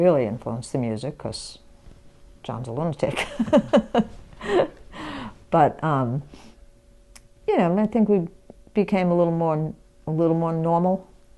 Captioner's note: laughs